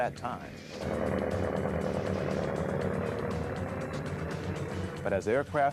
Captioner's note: engine rumbling